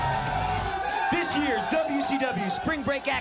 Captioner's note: crowd cheering